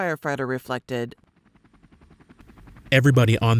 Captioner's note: helicopter blades whirring